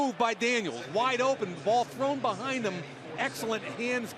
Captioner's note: none